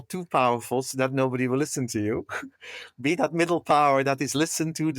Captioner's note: laugh